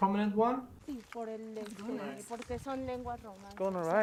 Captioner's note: speaking Spanish